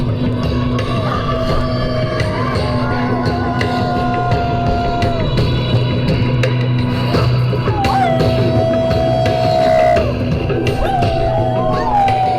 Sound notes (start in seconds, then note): 0.1 Oberon howling; 3.0 audience howling; 6.8 Oberon howling; 9.7 audience howling